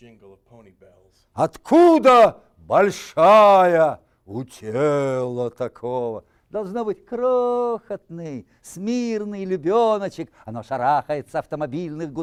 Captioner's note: reciting poem in Russian